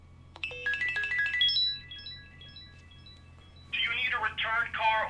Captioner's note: phone ringing